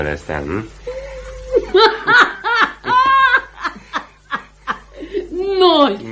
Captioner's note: the woman laughs